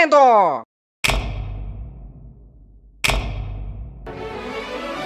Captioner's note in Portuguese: Som de holofote apagando e acendendo